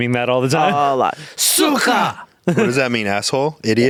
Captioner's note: speaking foreign language